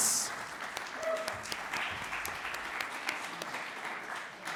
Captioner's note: audience applauds